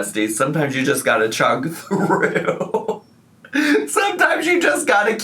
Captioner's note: laughs